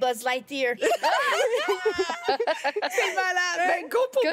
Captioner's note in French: rires